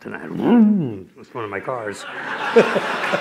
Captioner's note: laughter